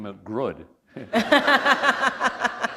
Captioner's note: laughter